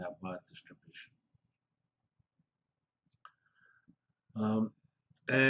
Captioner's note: pause